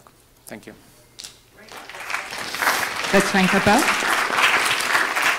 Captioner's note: audience applauds; audience applauds louder